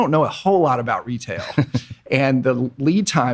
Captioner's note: laughing